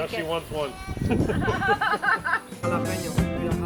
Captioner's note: laughter